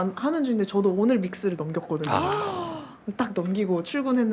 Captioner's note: applause